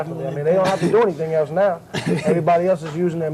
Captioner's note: laughs